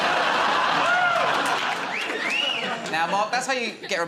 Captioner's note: laughter; wolf whistles